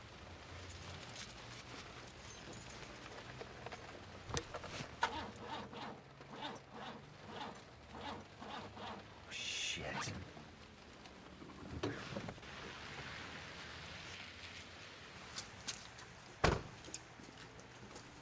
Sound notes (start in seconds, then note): 0.5 keys jingling; 5.1 engine spluttering; 11.6 rain pattering